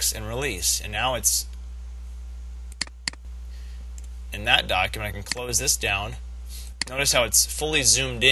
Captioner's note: click click